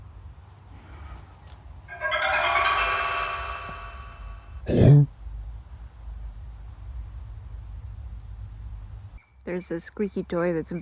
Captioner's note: creepy reveal riser and a confused humanoid noise; constant squirrel squeaking